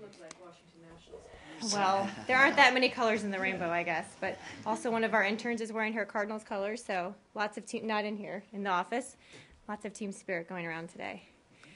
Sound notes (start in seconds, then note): 1.4 laughter